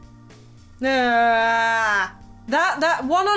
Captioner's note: freaked out sounds